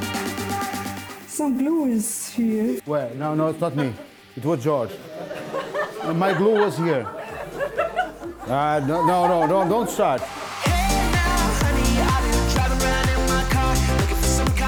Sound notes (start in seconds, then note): 7.4 laugh